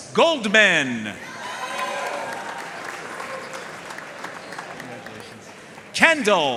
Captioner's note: audience cheering and applauding